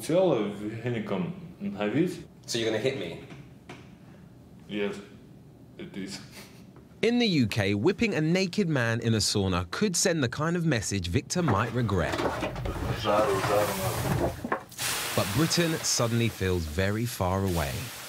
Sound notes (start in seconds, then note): 14.7 steam hissing